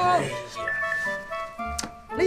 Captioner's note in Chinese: 訊息鈴聲